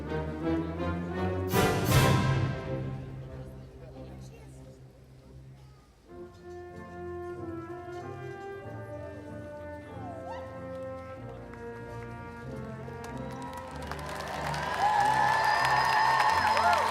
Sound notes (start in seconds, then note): 6.2 audience cheering; 6.2 inspirational music